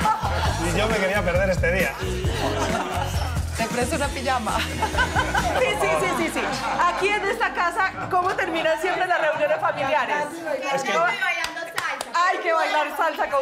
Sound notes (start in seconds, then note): 4.4 laughing